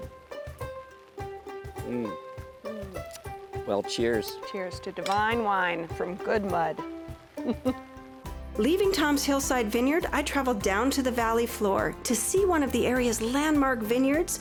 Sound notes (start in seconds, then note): 1.7 upbeat music; 7.3 chuckling